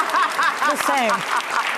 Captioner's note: laughing